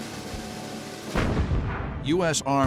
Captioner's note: explosion